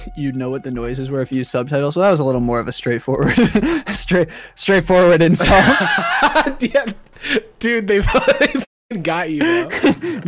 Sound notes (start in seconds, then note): 5.4 laughs